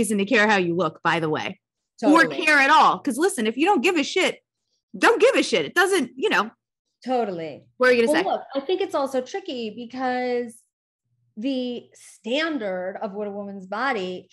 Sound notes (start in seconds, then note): none